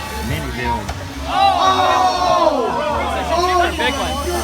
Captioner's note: loud crash sound and crowd moans!